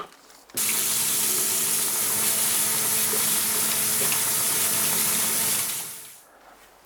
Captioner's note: water noise